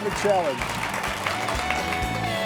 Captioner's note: audience continues applauding; upbeat music